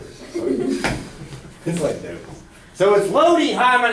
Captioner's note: laughter